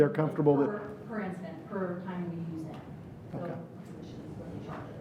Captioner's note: speaking faintly